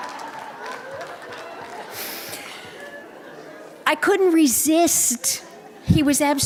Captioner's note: laughter